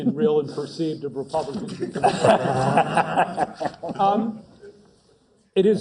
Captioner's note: laugh